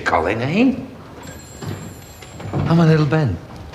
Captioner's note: phone ringing